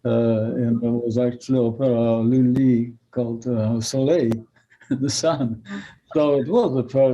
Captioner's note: french